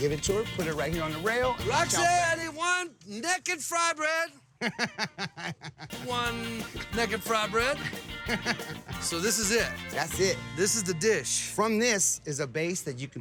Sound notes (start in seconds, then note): 4.5 chuckling